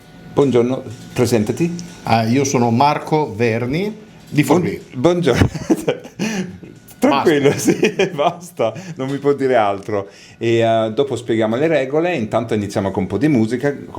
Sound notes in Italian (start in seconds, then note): 5.1 schiarire la voce